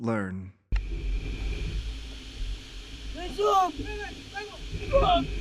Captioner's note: boaters shouting in Yanomami